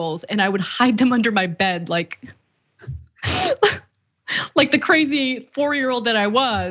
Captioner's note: laugh